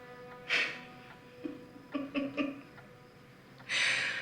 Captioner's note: laughing